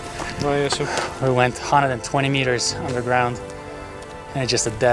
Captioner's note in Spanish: Hebreo